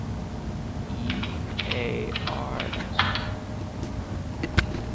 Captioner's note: typing